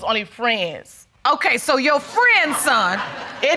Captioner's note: audience laughing